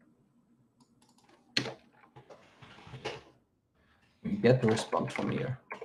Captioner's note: keyboard clacking